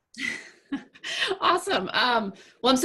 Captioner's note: laughs